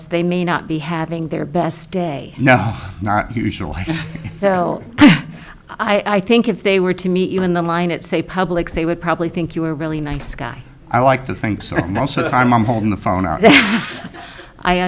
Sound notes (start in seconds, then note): 3.8 laughs